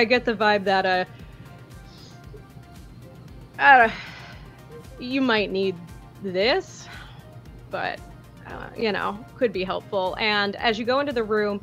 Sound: stutters and sighs

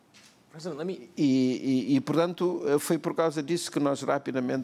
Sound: speaking portuguese

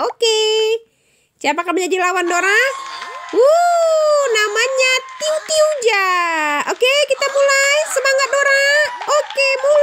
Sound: applause

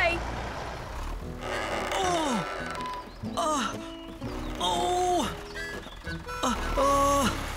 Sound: straining

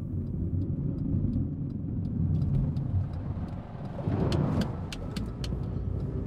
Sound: vehicle turn signal clicking

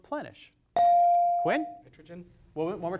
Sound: device dings

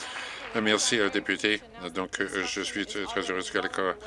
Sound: applause

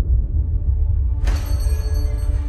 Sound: bell over shop door rings

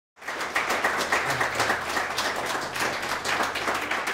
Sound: audience applauds

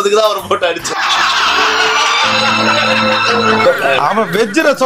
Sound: sobs

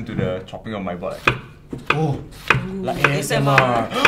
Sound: chopping ASMR

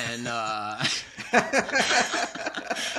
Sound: laughter

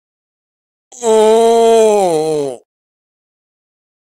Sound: sound of zombie

